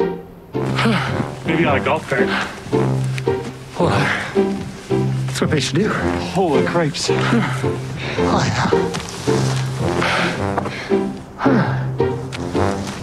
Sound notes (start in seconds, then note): 0.6 huffing; 2.0 puffing; 7.2 puffing; 10.0 huffing and puffing